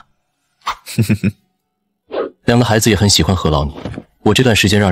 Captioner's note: chuckles